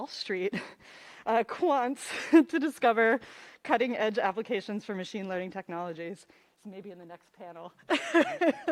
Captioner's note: laughs